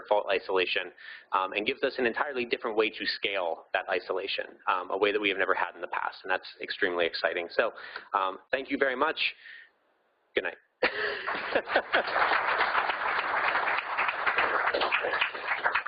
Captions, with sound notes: fault isolation, and gives us an entirely different way to scale that isolation, a way that we have never had in the past, and that's extremely exciting. So, thank you very much. Good night. (laughing) (audience applauding)